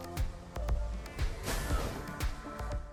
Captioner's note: bouncy battle music; whoosh; bouncy battle music